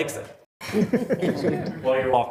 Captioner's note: attendees laughing